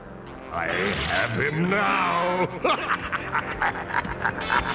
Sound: laughs

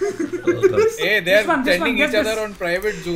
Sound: laughs

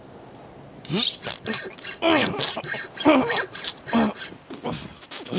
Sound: meaty sawing; greedy gobbling

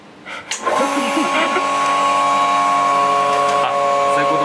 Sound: laughs

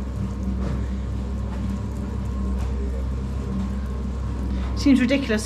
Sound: cement mixer turning

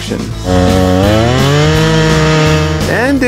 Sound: chainsaw roaring

